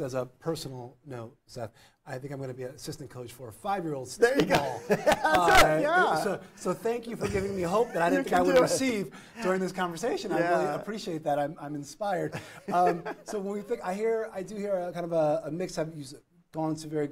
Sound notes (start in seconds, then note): 12.3 laughs